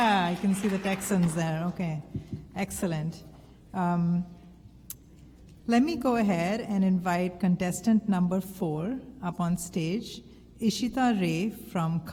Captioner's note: applause